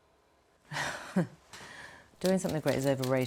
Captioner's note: Kate chuckling